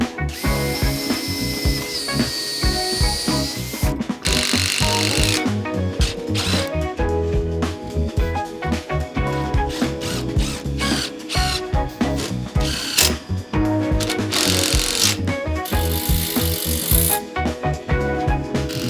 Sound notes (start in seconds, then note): 1.9 drill whirring